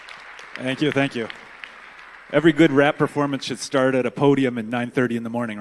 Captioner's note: applause